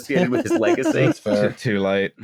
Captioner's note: laughs